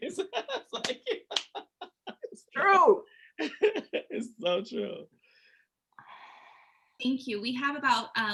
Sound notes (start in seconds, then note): 0.0 laughter